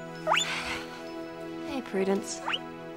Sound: guinea pig squeaking

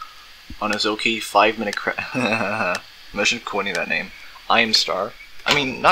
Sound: chuckles

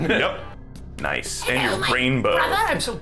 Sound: high-pitched raspy voice

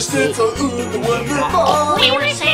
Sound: oinks

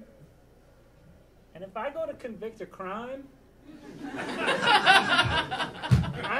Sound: audience laughing

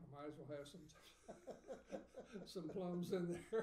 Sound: laughing

